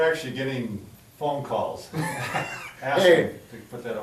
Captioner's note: laughing